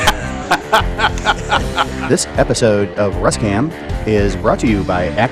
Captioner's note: laughter